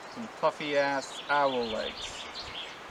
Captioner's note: none